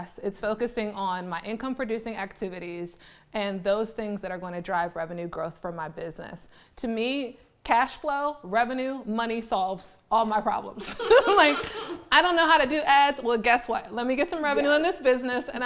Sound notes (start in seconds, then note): 10.8 laughing